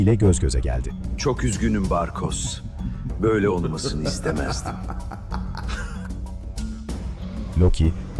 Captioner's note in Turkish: kahkaha